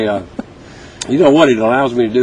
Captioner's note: laughter